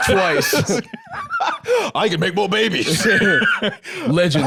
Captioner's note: laughs